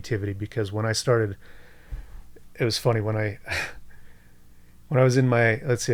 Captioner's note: chuckles